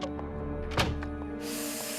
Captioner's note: door closes